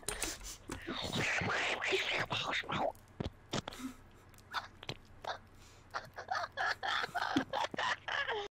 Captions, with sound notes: ᵂ̶̜́͝ᵃ̷̯̽͛ⁿ̷̦̑ᵗ̷̡͎͐̐ ̵̯̆ˢ̴͖̉͜ᵒ̴̭͆ᵐ̶̢̀ᵉ̴͎̈́̌ ̴̢͆̋ʷ̸͎̪̐̀ᵃ̷̣̈́͜ᵛ̴͉̪͑ᵉ̷̲͛̈́ ̴͉̃ᵍ̶̼̀͐ʳ̷̛̯͔̓ᵉ̷̢̔ᵃ̷͓͐ˢ̶͎͔̂ᵉ̵̢̹͝ ̶̜̾ᶠ̶̛͈̜͒ᵒ̷̖̗̋ʳ̷̗͋͝ ̴͍͈̃ʸ̴̙̻̎̈́ᵒ̸̥̉͠ͅᵘ̷̹̙̽̏ʳ̵̜͌ ̷̢͓̈́̕ᵇ̴̱̀ᵃ̶̹̠͒̾ˡ̸̦̚ˡ̶̯͌ˢ̸͚͒̽,̷̣̀̕ ̶͒́͜ᵇ̵̥͊ʳ̷̭̄ᵒ̴̣̀̓ˀ̶͚̟̐̀ *Sleep deprived laughter*